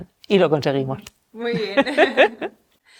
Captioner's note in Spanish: Risas